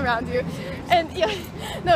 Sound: laughs

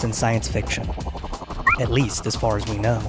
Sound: electronic beep

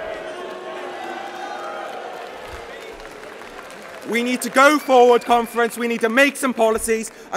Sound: booing

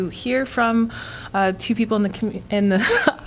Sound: laughter

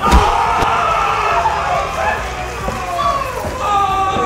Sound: loud smack; crowd cheering and laughing

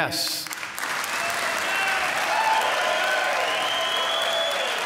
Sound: cheers and applause

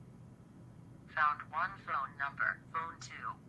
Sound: computer Voice

